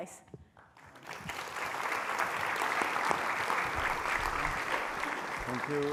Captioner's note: applause